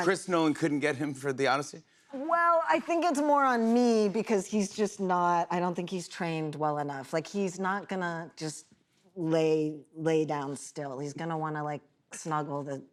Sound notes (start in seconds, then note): none